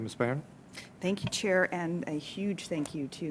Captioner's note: speaking French